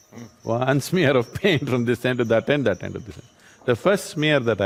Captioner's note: laughs